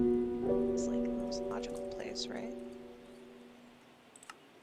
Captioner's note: faint talking